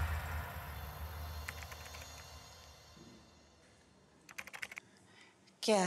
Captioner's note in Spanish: tecleo